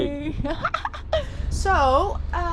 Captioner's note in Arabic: يضحك